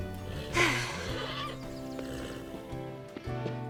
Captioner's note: sighing